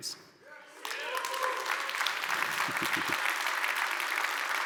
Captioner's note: audience applauds